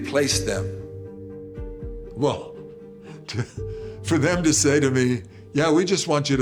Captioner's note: chuckles